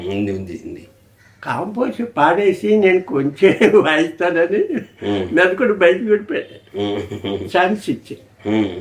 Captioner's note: laugh